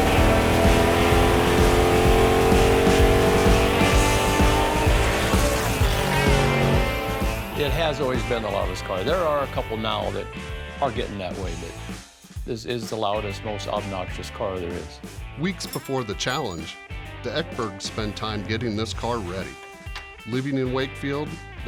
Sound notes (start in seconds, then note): 0.0 engine racing